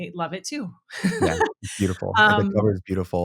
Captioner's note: laughing